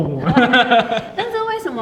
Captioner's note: laughter